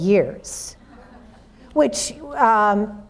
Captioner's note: audience laughs